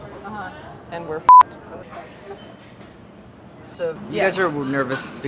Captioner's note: beeping